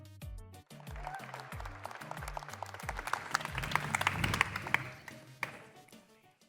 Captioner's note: applause